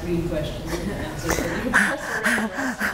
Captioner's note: laughter